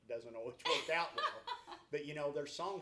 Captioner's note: laughs